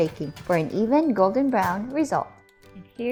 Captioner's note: oven rack thuds